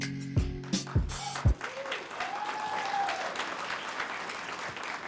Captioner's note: applause